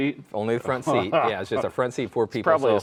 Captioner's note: laughing